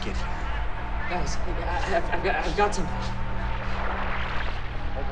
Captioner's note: radio receiving signal